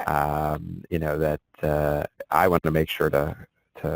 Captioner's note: voiceover